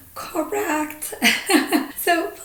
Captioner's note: laughing